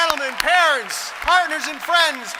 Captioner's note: applause